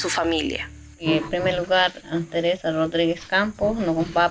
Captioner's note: in Iskonawa